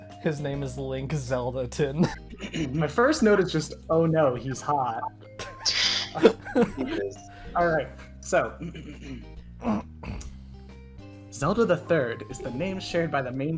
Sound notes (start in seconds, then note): 9.6 clears throat